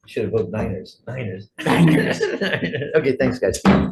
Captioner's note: laughs